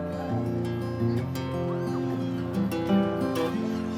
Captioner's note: children laugh, chatter